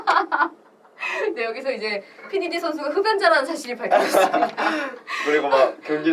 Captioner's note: laughs